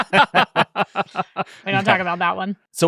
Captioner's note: laughing